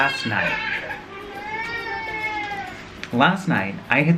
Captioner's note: crying